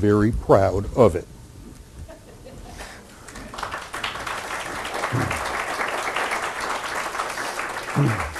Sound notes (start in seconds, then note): 3.3 applause